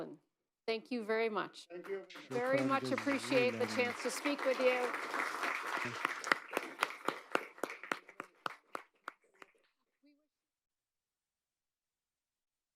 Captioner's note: applause